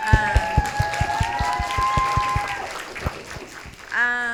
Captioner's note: audience cheering